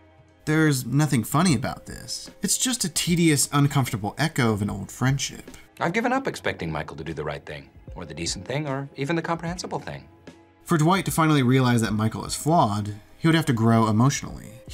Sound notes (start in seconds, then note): none